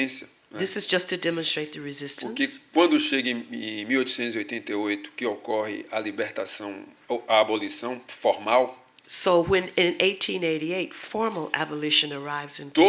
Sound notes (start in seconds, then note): 5.8 speaking portuguese